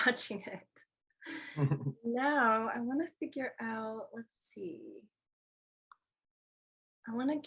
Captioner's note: laugh